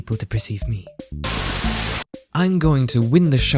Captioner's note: Static